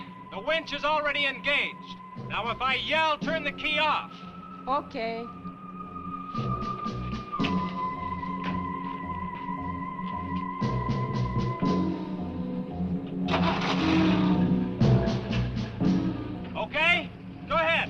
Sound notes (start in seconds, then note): 13.2 engine cranks